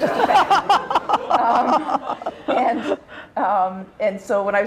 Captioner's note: laughter